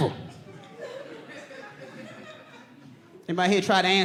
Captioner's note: audience whoops